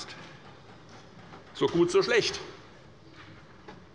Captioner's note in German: none